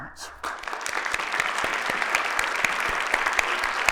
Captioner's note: applause